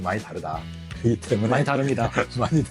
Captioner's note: laughs